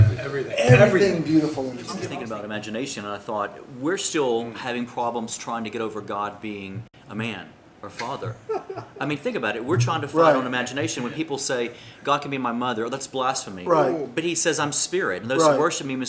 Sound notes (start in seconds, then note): 8.0 laughter